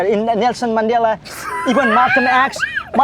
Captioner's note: laughs